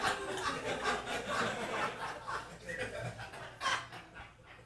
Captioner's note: audience laughing